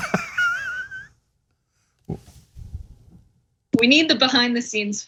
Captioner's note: laugh